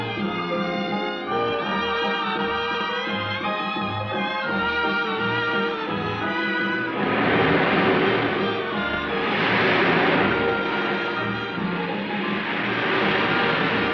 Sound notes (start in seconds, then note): 7.3 water rushing